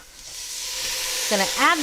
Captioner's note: pot sizzles